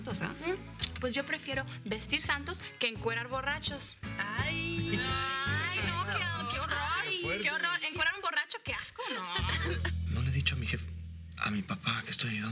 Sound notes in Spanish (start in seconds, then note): 4.1 Exclamaciones